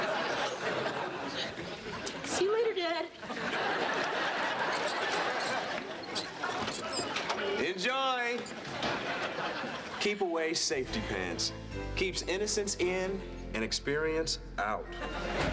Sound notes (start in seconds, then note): 1.3 falsetto voice